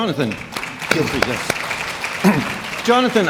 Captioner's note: audience clapping